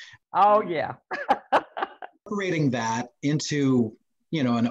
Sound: laughs

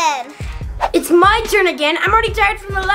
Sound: fast swoosh sound

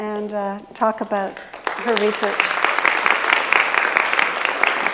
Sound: audience applauds

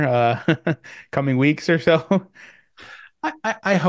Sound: chuckles

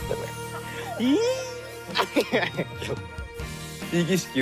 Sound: kyle gushes, laughs

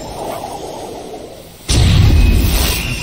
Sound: missile fires and explodes

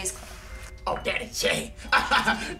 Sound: laughs

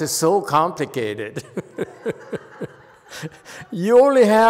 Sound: laughs, audience laughs

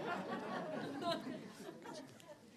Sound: laughter

